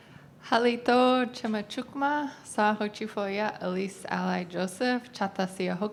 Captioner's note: speaking in foreign language